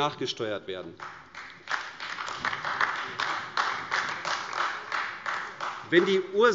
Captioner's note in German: Beifall AfD